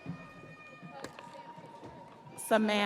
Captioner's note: audience cheering